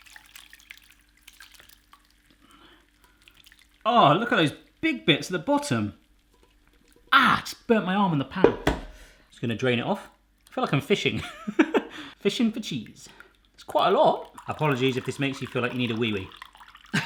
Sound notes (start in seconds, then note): 11.2 chuckling